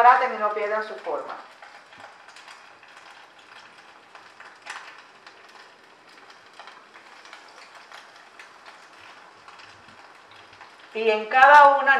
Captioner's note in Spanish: Crepitación